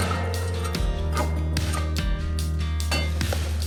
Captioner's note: grunts